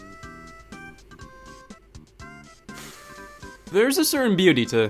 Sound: exhales in mild congestion

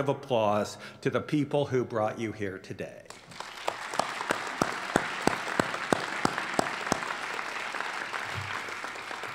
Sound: applause

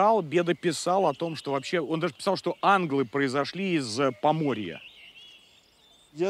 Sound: Russian

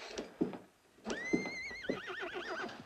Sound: horses whinnying

